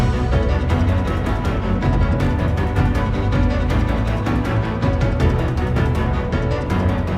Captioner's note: game audio